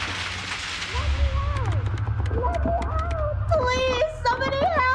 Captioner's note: muffled clattering; handle rattling